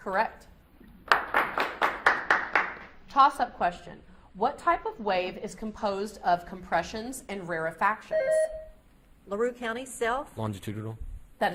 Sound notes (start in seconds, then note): 1.1 audience applauds; 8.0 beep buzzing